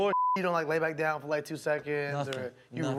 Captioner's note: beep